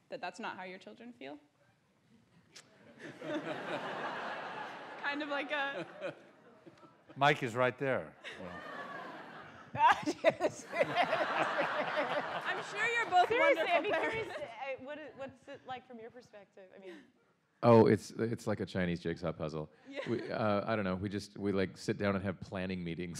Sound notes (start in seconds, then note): 9.9 laughter